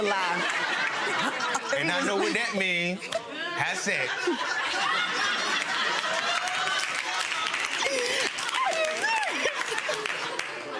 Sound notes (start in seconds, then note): 0.1 laughing; 5.9 clapping; 6.2 laughing